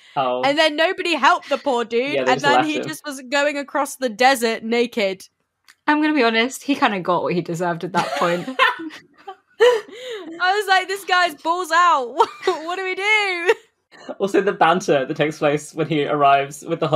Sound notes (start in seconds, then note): 7.9 laughs